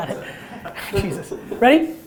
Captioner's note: laughter